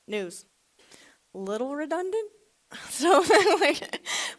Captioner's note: laughs